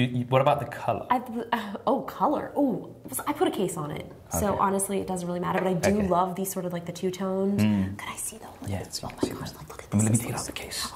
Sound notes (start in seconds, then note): none